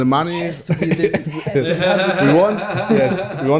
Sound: laughing

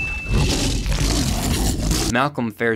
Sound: bell dings; T. rex roars

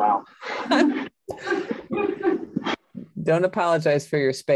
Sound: group laughs

